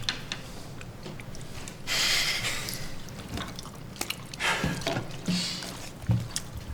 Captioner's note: laughing